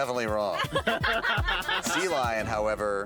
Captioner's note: laughing